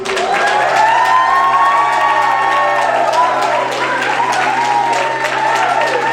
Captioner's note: audience cheering and clapping